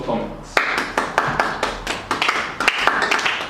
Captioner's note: applause